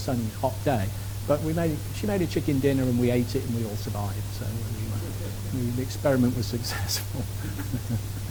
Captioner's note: laughs